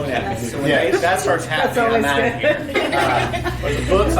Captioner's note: guest's laughing